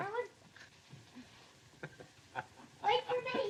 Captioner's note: chuckles